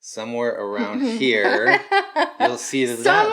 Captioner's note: laughing